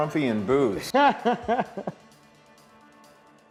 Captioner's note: laughing